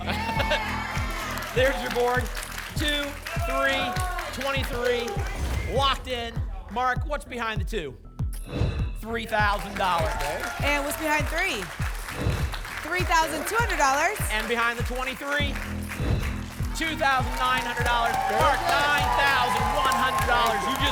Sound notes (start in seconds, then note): 0.0 applause and cheering; 8.4 whoosh; 12.1 whoosh; 16.0 whoosh